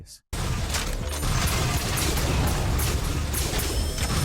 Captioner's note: blaster firing